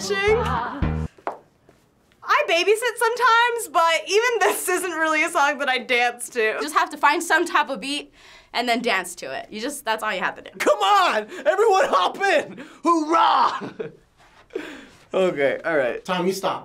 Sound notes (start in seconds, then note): 13.1 laughing